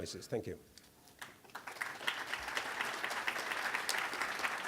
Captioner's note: applause